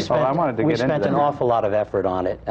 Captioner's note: laughs